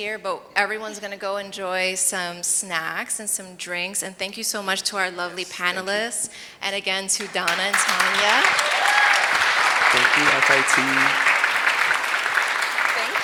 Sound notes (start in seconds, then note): 7.2 audience applauds and cheers; 11.2 audience continues to applaud